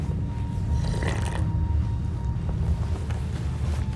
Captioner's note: slurping